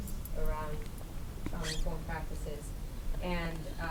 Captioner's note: voice muffled